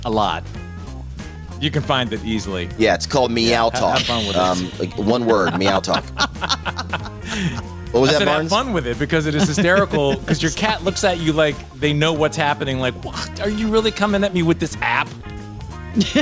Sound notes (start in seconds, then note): 6.2 group laughs